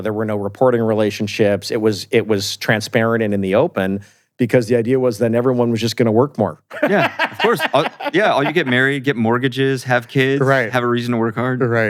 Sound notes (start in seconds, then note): 6.7 laughs